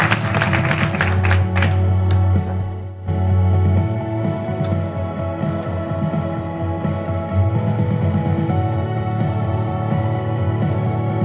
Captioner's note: applause